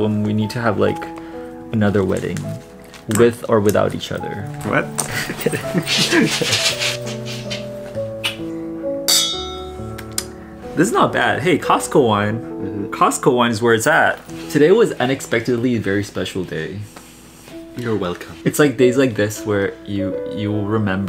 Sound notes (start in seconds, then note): 5.0 both laughing; 9.0 glasses clinking